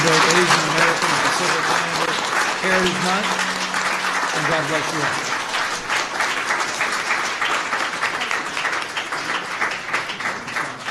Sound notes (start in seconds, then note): 5.7 applause